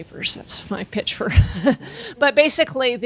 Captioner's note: laughing